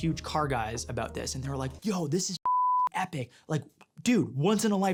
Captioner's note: beep